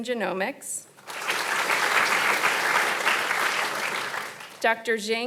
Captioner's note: audience applauding